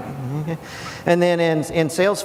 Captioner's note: audience laugh